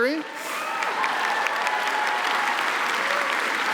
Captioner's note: applause